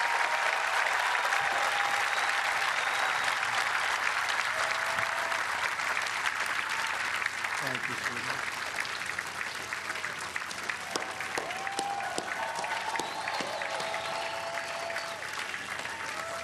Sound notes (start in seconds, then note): 3.8 applause